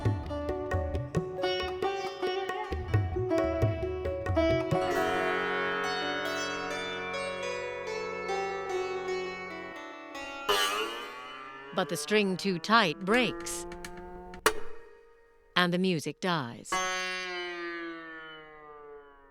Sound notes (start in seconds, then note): 10.5 note twangs discordantly; 13.6 hollow snap